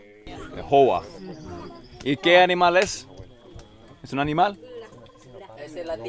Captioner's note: speaking in foreign language